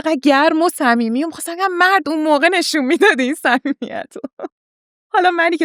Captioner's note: laughs